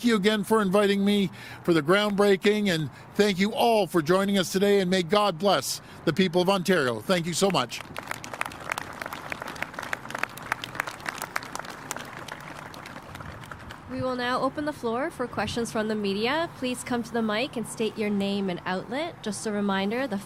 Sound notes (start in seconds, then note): 9.6 applause